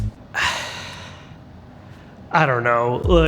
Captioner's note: sighs